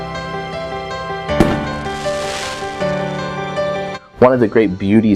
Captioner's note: fireworks pops and fizzles